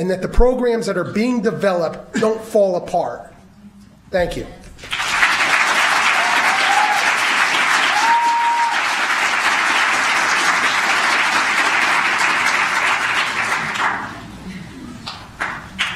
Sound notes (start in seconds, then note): 4.8 applause